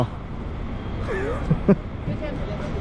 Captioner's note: laughs